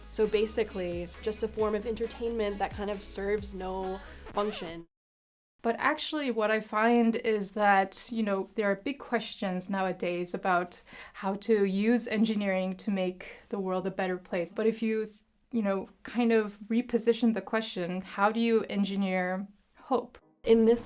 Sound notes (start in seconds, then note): 4.9 record scratch